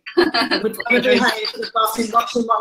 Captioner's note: laughs